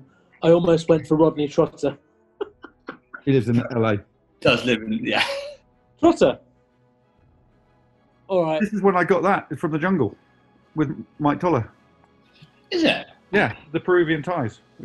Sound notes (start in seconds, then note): 4.4 giggling